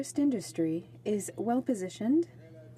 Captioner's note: speaking French